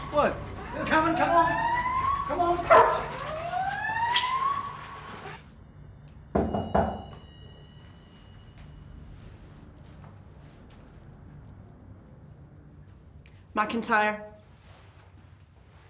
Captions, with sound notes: - What? (knocking on door) - McIntyre.